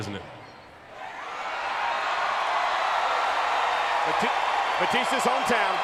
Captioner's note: crowd cheering